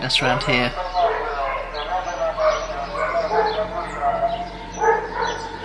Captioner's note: loudspeaker shouting